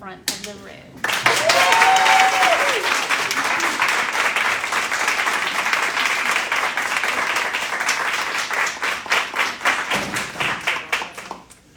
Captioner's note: cheering and applause